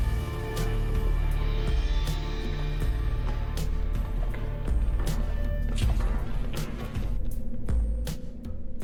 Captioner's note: metallic Corridor with footsteps